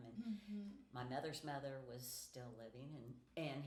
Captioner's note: none